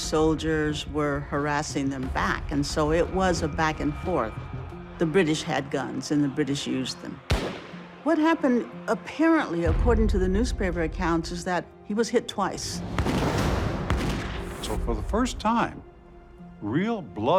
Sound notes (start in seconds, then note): 7.3 gunshot; 12.8 gunshot